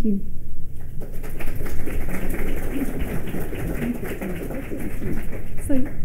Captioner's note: applause